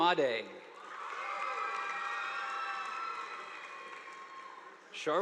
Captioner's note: audience applauding